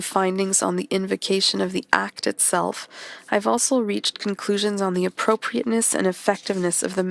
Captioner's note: speaking French